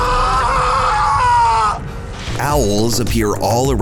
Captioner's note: yelling